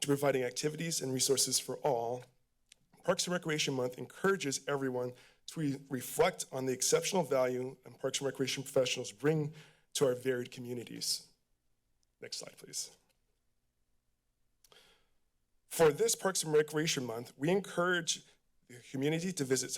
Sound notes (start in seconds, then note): 14.7 inhales